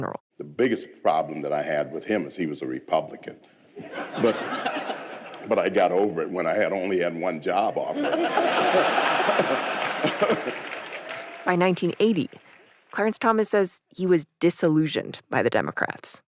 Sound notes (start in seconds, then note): 4.2 audience laughs; 11.9 audience laughs, claps